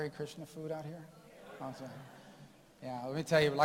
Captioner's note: audience affirms